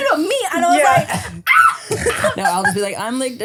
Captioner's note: laughs